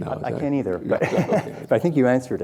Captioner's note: laughing